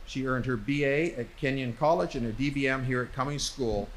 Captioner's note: none